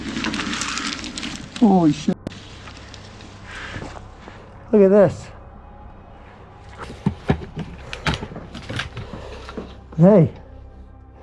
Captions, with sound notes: Holy (beeping). Look at this. Hey.